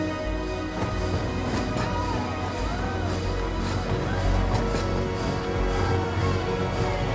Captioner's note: train chugging